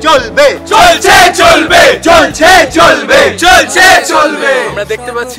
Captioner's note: all protesting together